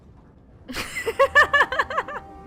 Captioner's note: laughs hysterically